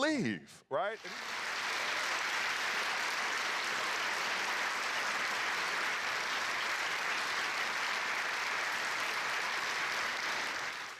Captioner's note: audience applause